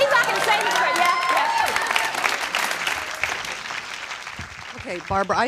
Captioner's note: audience claps